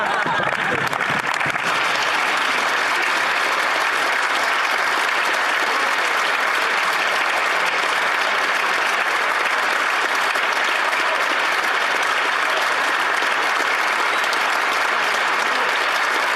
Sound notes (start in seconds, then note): 1.8 speaking French; 5.6 applause